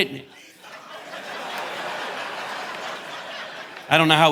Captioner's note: audience laughing